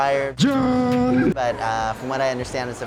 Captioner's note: wordless yell